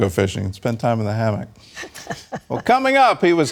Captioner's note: laughter